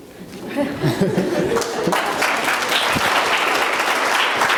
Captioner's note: laughter; applause